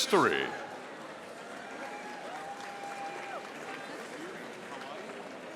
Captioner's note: audience applauding